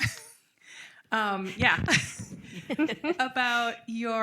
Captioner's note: chuckling